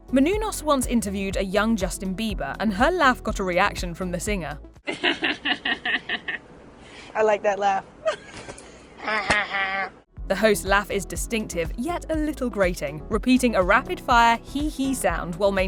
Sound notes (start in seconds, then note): 4.9 laughing